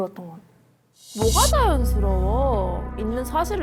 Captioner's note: offended tone